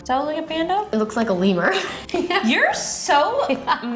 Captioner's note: laughs